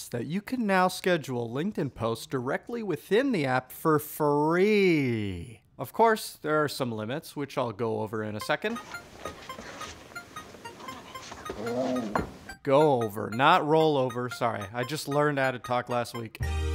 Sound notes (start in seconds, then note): 9.0 grunting